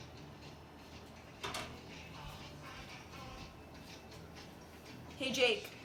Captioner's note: TV noise